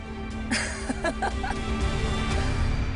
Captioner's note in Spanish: Risas